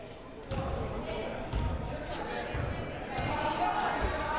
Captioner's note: crowd murmuring